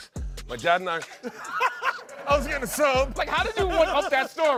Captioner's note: laughs